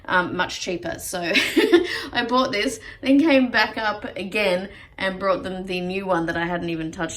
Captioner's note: chuckles